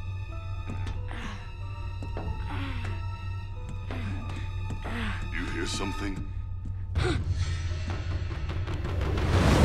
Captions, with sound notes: [groaning] You hear something? [gasping]